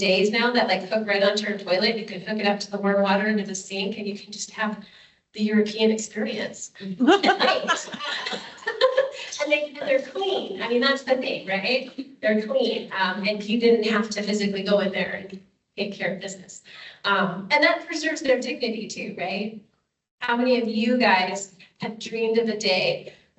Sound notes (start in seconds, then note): 6.9 laughs